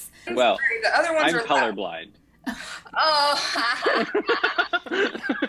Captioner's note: cast laughs